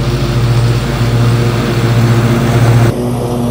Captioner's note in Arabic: تشغيل محرك الجزازة